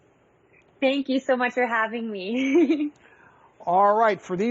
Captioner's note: giggles